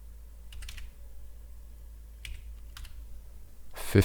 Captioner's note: keys typing